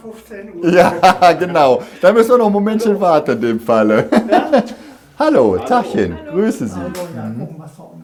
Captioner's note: laughter